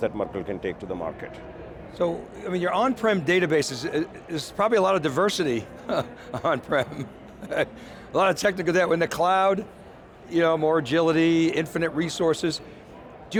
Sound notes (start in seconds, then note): 5.4 laughs